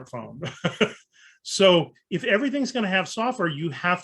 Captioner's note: chuckles